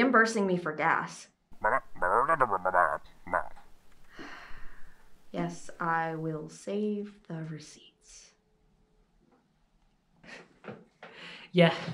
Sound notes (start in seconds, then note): 0.2 distorted voice; 2.3 sigh; 8.8 laughs